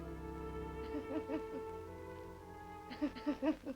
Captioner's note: crying